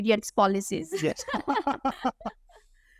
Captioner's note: laughter